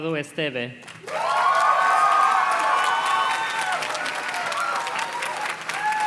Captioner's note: audience cheers and claps